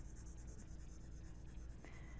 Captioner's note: pencil scratching